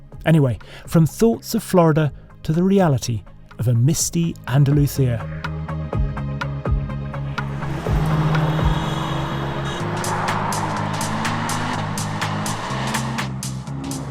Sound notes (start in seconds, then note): 5.9 bright music; 8.5 engine rumbles; 8.5 upbeat music